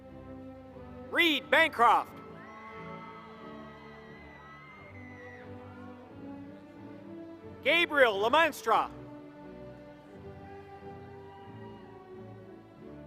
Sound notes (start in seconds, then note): 2.2 applause